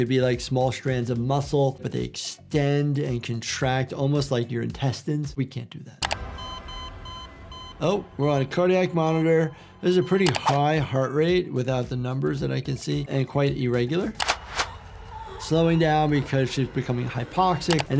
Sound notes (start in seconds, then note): 6.0 cardiac monitor beeping